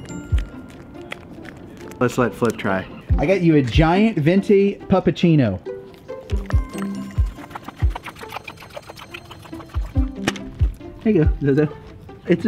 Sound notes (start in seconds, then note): 0.0 dog licking; 5.8 dog licking